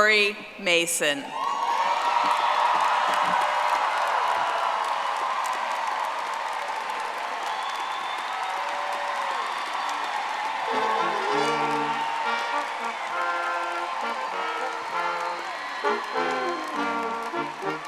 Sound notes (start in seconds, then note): 4.8 audience applauding; 14.1 triumphant music